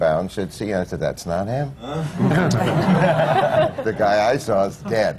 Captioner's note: laughter